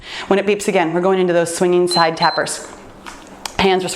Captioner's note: timer beeps